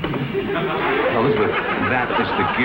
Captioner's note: audience laughs